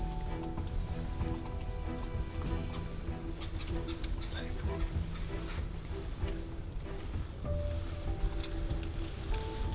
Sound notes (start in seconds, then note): 3.1 bird clucking